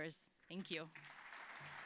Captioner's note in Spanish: aplausos